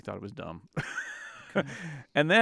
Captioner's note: laughs